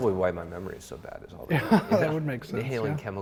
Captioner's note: laughs